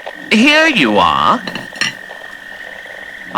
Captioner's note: plate clinking fx